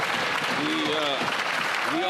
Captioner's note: some Applause